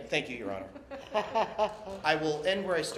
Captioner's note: laughter